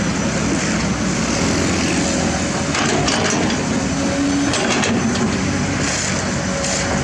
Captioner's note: engine Rumble